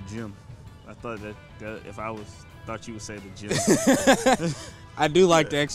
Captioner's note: laughing